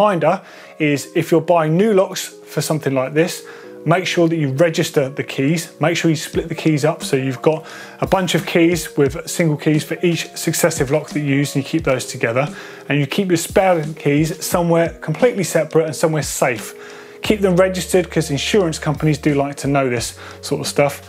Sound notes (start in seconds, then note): none